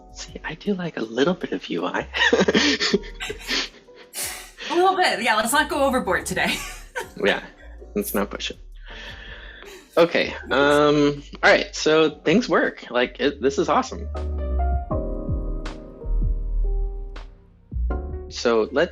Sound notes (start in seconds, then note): 2.2 chuckling